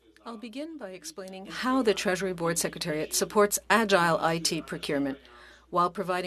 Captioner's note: speaking French